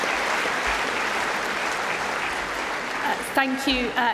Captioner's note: applause